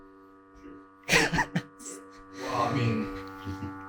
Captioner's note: presenter chuckling